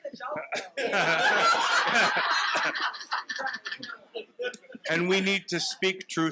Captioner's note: participants laughing